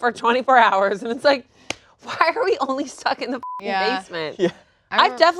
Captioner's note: beep